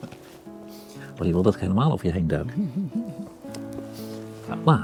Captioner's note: laughs